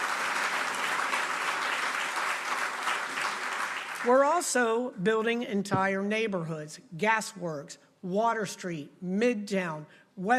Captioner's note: applause